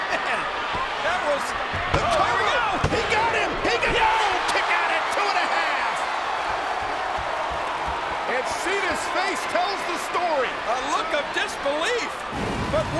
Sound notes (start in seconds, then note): 0.2 chuckles; 6.0 crowd exclaiming